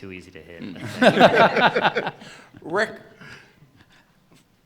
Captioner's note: laughter